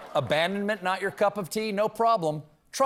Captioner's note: laughter